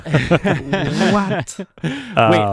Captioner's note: laughing